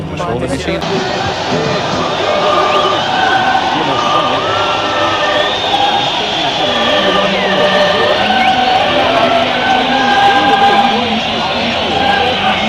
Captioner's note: music, applause and shouts in the other countries of UTC +2; opera music